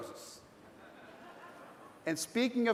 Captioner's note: light laughter